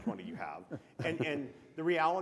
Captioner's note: chuckles